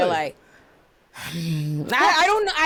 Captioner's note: sighs